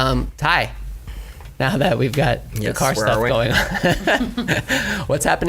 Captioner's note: laughs